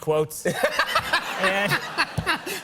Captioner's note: laughter